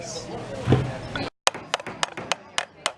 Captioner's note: hammer hitting nail